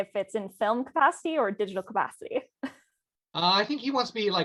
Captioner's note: laughs